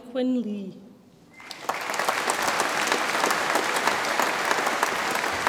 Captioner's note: audience applauds